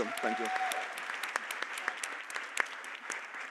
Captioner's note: Aplodit